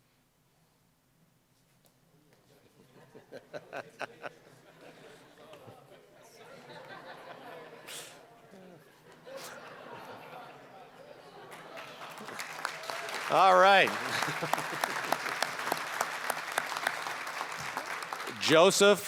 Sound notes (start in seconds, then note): 3.4 audience laughing; 11.4 applause